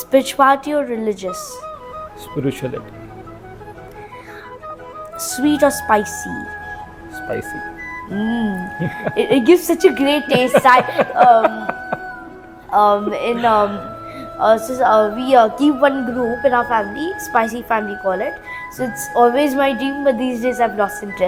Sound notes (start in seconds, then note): 11.3 laugh